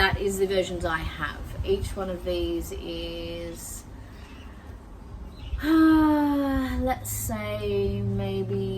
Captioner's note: sighs while thinking